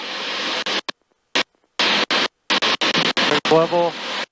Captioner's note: radio static